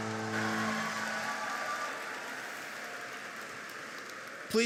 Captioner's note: applauding